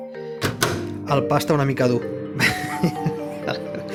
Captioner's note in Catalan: Riu